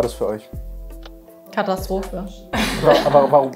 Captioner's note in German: Lachen